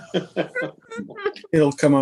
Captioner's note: laughing